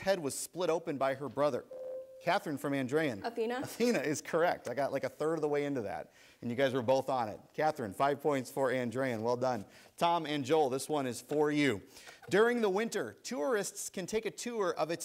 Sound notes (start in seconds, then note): 1.7 ding